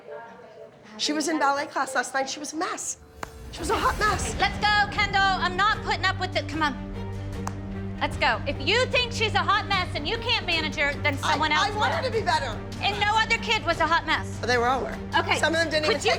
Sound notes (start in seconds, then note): none